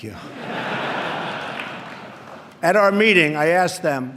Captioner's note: laughter